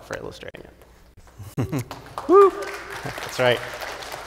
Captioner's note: audience applauding